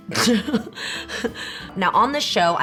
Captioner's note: laughs